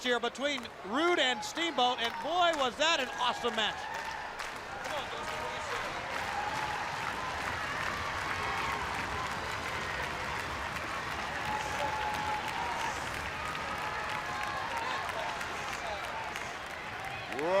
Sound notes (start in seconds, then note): 4.3 crowd cheering